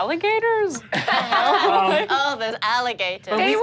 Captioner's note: all laugh